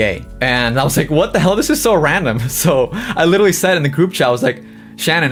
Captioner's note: laughs